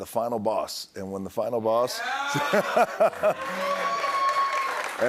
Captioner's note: cheers and applause